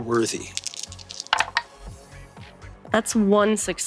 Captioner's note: dice tapping table; energetic electronic music